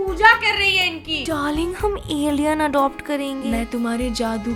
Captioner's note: mimics